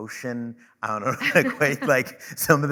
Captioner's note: chuckling